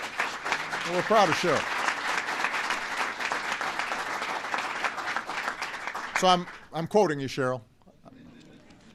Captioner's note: applause